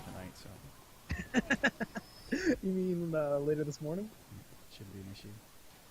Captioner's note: laughing